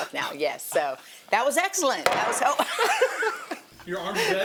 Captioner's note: board slams; laughs